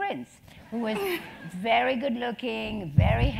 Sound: laugh

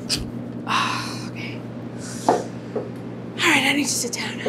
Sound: sighs

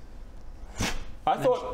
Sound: pfffh

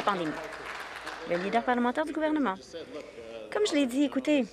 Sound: some Applause

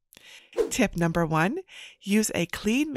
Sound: tip icon whooshing

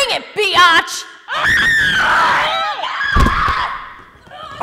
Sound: screaming and Grunting

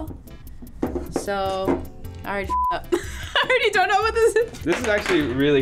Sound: laughs

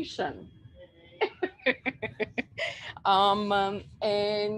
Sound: laughs

